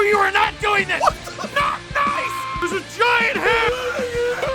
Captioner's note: Harry potter screaming; screaming